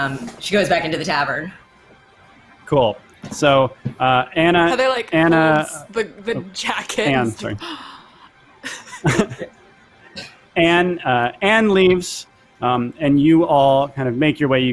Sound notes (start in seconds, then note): 7.6 gasps; 8.6 laughs